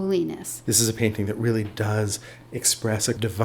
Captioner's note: voiceover